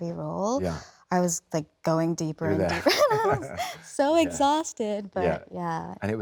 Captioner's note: laughs